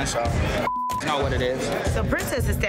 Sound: beep

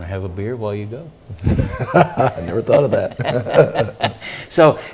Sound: laugh

